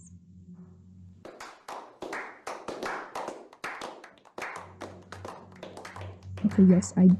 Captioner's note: slow clapping